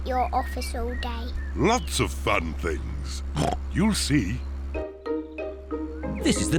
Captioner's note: oinks